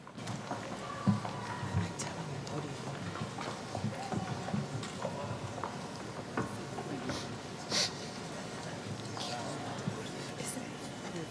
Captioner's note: applause